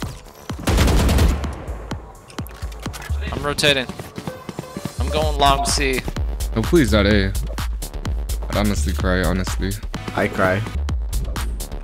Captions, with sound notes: (gun firing) - I'm rotating. I'm going along with C. - Oh please not A. I honestly cry, honestly. - I cry.